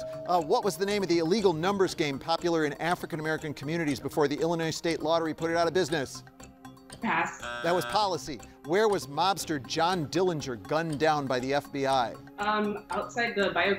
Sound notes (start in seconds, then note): 7.2 buzzer buzzing